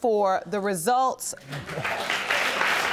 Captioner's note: audience applauding